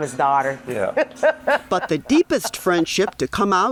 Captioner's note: chuckles; laughs